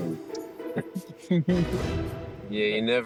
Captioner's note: chuckles